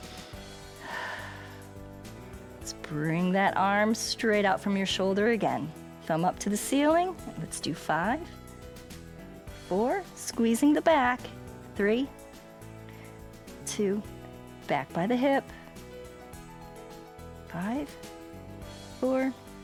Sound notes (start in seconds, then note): 0.0 exhales